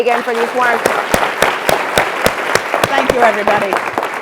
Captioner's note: attendees applauding